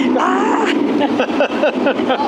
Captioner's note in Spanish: riendo; gritando